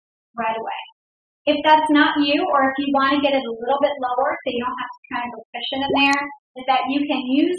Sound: plunk

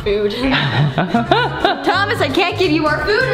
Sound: laughing

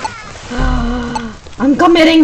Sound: gasps

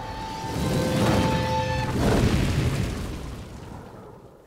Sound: fire burning

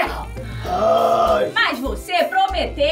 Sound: groaning

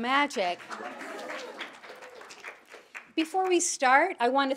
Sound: audience applauding

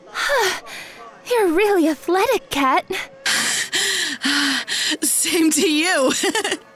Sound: catching breath; catching breath

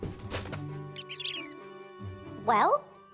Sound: mice squeaking

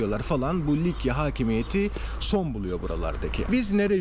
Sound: none

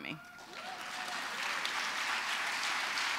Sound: applause

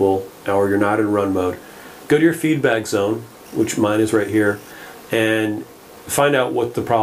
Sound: feedback 00:09:04

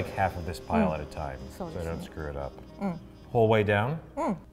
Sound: speaks in foreign language

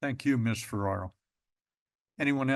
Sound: pause

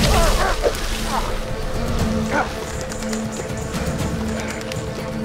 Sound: Hartington groaning

